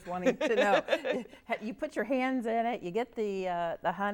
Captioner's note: laughs